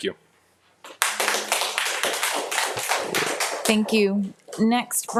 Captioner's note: audience applauding